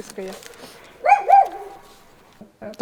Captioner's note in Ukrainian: гавкіт